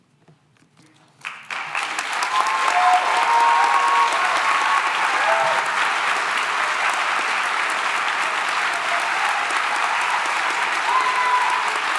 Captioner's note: cheering and applause